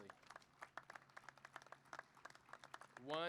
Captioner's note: applause